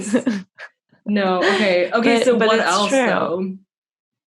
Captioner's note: laughs